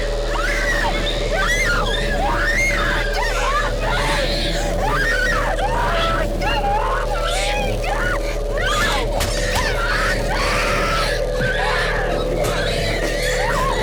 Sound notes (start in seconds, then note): 0.0 urgent music; 2.4 Abby shrieks; 4.8 Abby screams